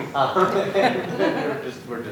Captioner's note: laughter